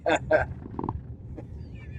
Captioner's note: laughs